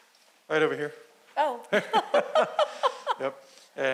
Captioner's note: laughing